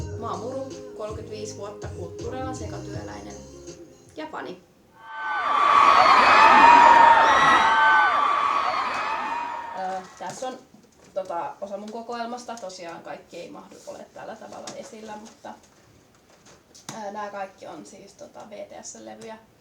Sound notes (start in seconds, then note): 5.0 fan shout